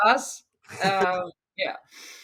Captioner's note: laughs